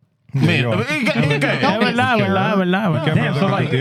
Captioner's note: speaking Spanish